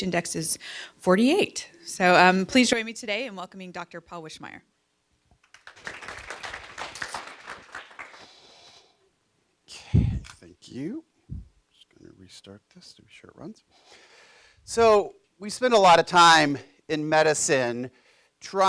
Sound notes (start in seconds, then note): 5.4 clapping